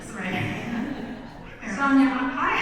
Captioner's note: audience laughs